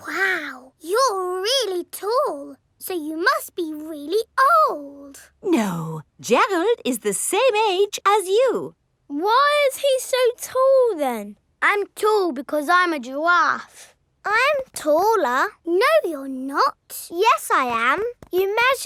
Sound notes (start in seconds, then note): none